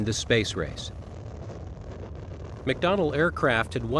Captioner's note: rocket rumbles